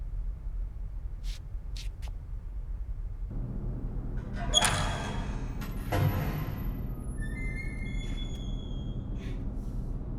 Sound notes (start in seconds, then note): 4.0 metal sliding